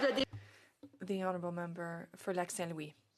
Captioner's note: some Applause